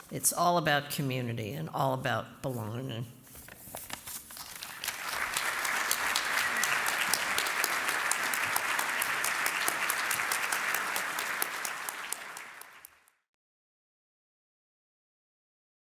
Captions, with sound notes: It's all about community, and all about belonging. [APPLAUSE]